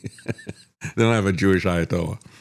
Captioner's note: laughs